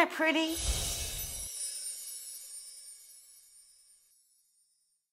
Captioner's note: chimes ringing